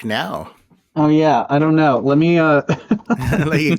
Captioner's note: laughter